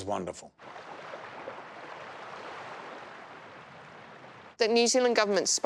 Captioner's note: ocean waves